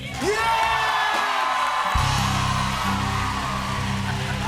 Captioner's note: cheers and applause